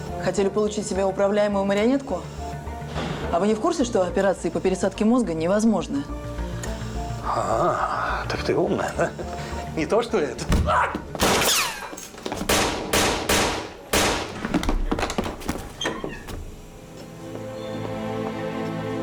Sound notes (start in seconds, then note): 10.9 gunshots; 16.7 sad music